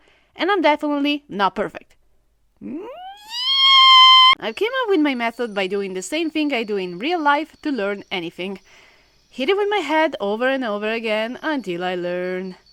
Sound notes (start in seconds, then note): 2.7 atomic fangirl screech